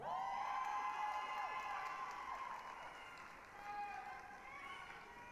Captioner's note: applause, cheering